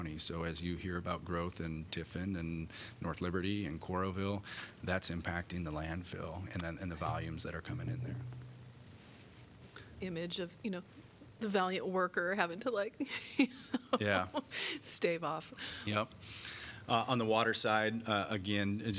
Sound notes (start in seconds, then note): 13.0 laughter